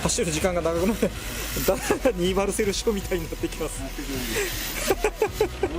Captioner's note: laughs